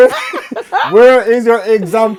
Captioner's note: laughing